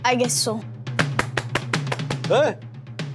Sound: claps

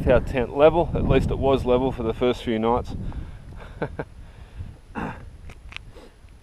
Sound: laughs

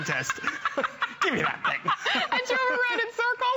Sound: laughter

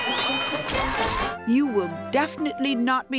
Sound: bell ringing

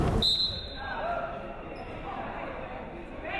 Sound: whistle blows

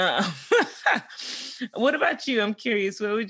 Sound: laughs

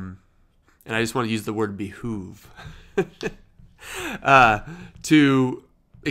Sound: chuckles

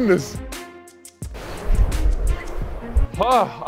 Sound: air whooshing

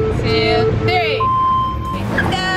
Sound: beeping

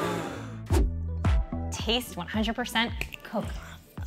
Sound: gasping

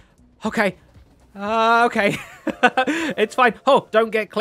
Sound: laughs

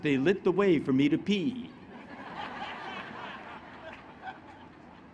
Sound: laughter

